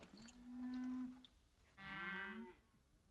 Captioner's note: cattle mooing